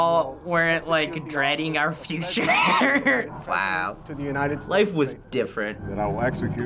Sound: laughs

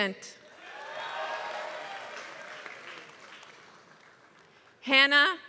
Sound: applause

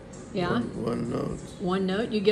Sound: female voice

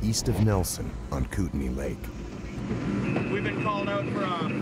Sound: radar pinging

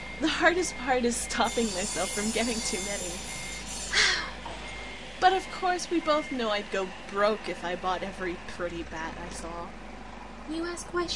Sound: sighs wistfully

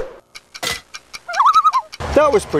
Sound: loon calls

